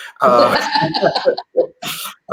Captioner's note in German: Beide lachen